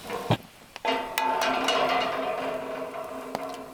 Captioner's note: tapping